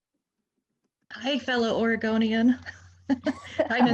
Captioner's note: laughs